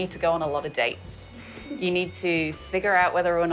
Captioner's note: giggles